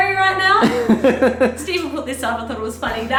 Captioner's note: laughter